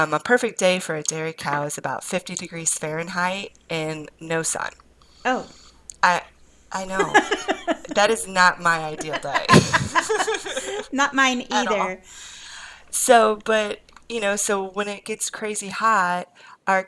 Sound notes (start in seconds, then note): 7.3 laughs; 10.3 laughs